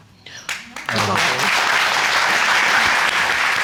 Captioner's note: applauding